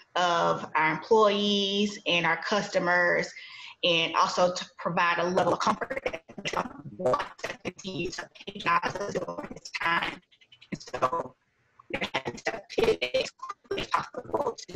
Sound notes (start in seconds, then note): 6.6 audio cutting out